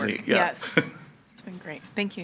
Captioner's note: laughing